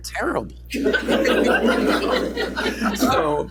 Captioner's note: laughter